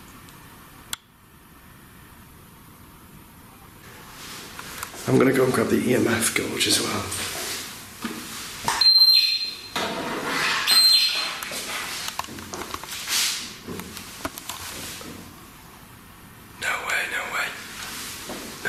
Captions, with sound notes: - I'm gonna go grab the EMF Gauss as well. (metre beeping) (footsteps thudding) No way, no way, no way.